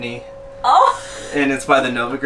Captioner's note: laughing